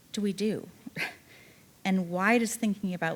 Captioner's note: chuckling